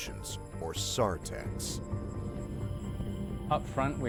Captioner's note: voiceover